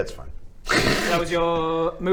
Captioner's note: laughs